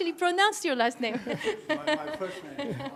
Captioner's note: laughter